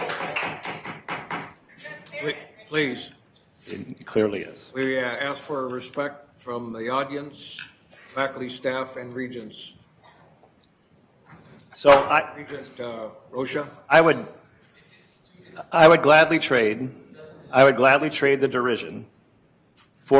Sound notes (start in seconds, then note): 0.0 attendees applauding; 0.6 gavel bangs